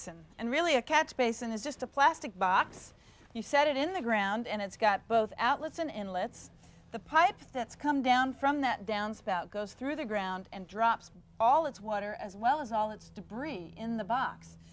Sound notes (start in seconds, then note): none